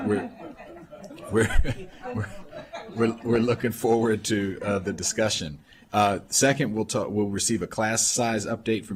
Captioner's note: laughter